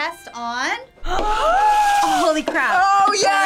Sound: both gasp

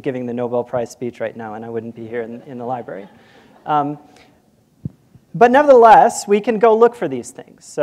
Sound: laughter

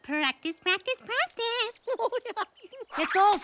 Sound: giggling

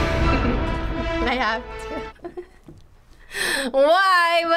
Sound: laughs

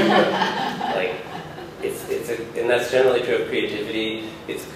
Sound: laughter

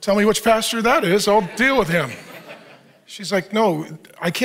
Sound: audience laughs

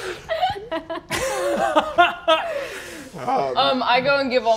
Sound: laughing

